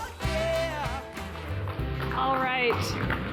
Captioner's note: audience clapping